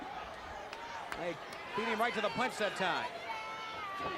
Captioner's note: crowd cheering